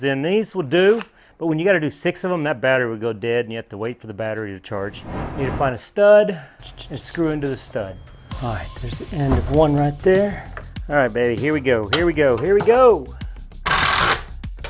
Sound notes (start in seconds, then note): 6.7 beeping